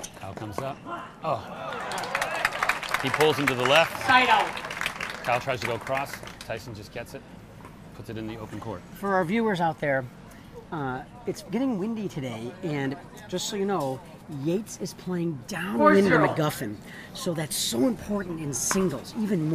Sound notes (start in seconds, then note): 1.5 crowd clapping and cheering